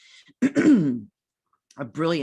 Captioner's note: clears throat